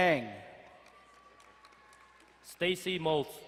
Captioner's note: crowd cheering and applauding